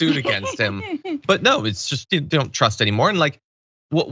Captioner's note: laugh